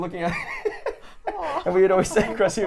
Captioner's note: laughing